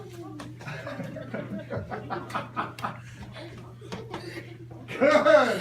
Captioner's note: chuckles